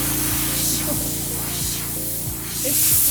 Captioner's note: laughs